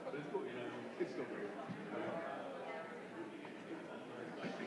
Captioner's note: indistinguishable chatter